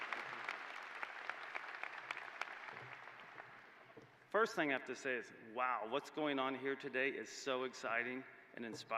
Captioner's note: applause